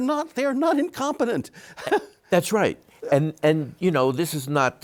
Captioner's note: chuckles